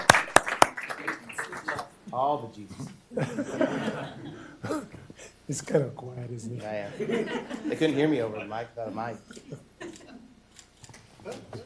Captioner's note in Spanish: Aplausos